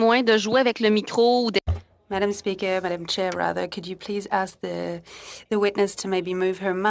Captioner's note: speaking French